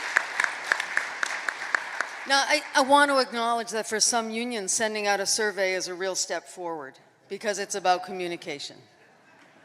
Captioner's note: applause